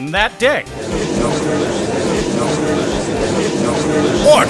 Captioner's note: gallery chattering